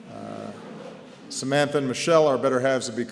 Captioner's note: laughter